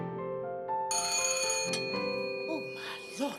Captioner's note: bell rings